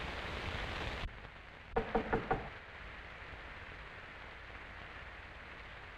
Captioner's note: knock on door